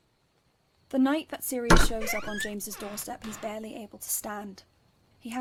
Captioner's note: door opens